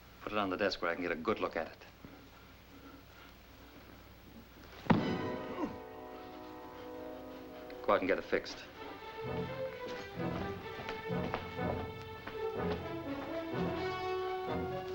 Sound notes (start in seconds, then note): 4.8 thudding; 6.1 dramatic music